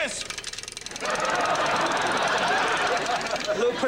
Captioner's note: clackety clackety clack